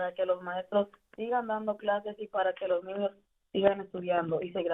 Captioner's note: speaking in spanish